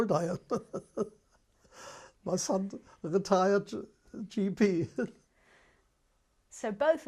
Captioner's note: laughs